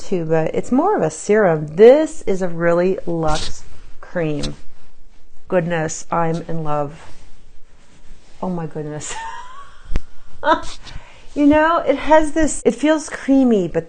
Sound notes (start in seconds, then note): 9.1 laughs